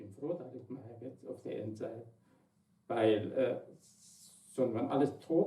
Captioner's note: foreign language